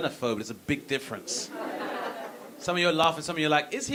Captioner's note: audience laughing